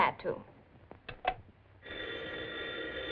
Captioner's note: phone rings